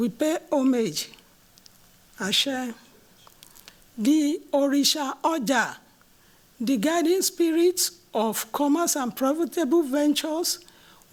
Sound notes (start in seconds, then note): 2.1 non-english